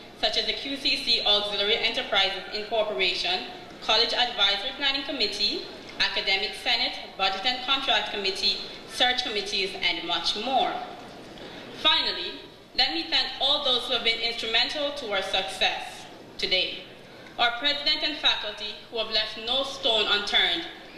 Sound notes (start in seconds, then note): none